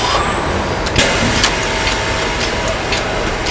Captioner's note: screaming